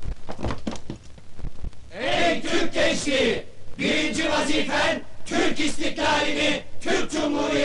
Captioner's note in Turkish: hep bir ağızdan